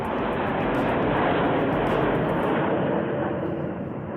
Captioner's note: jets thundering